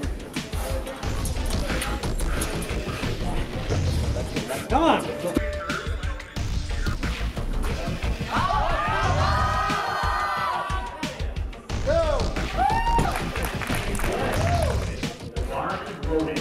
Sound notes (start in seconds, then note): 9.1 crowd cheers